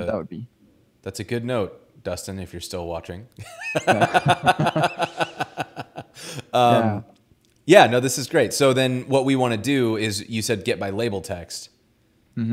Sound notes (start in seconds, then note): 3.5 laughs